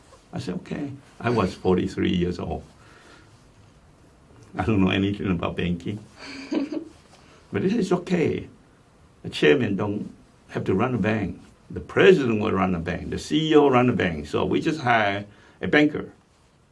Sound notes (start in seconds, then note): 6.2 laughs